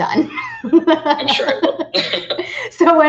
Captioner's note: laughing